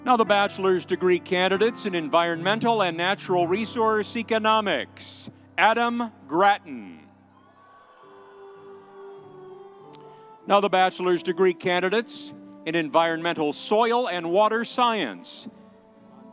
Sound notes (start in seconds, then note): 7.3 audience cheering